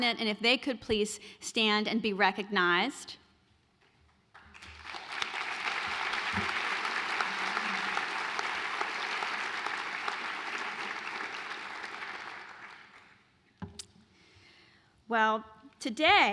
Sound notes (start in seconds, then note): 4.3 applause